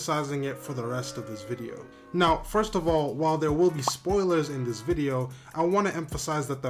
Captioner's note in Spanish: ¡boooo!